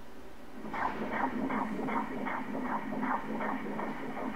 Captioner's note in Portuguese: som do coração